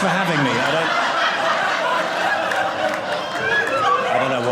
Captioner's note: audience laughing